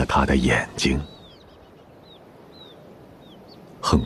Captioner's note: wind blowing